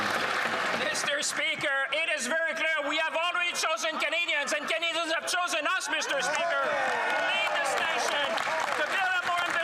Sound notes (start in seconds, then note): 5.9 some Applause; 6.1 speaking French